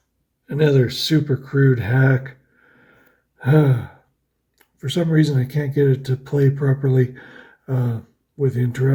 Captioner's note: huffs